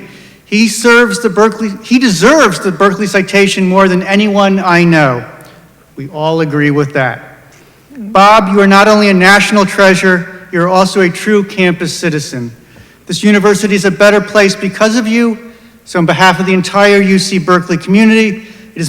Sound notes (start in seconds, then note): none